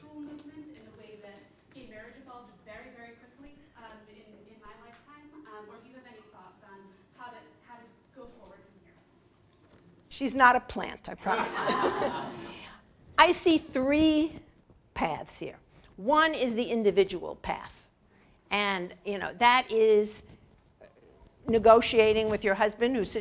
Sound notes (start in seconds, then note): 11.3 laugh